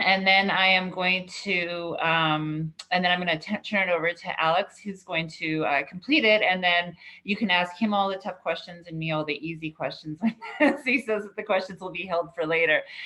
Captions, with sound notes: and then I'm gonna turn it over to Alex, who's going to complete it, and then you can ask him all the tough questions and me all the easy questions. (laughs) He says that the questions will be held for later.